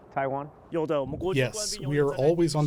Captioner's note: through translator